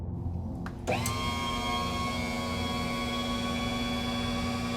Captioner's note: machine whirring